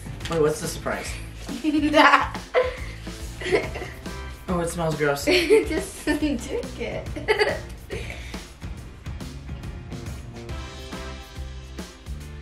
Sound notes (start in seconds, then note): 1.5 giggles; 7.6 festive music